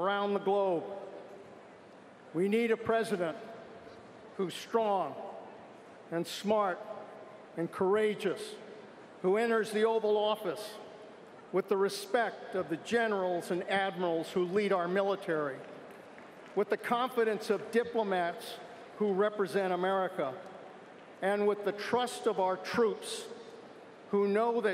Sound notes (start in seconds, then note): 12.6 cheers & applause